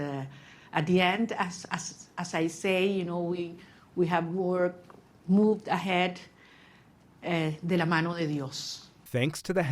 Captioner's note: speaking in foreign language